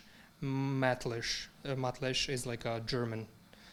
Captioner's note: speaking in foreign language